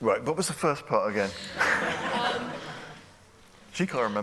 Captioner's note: laughter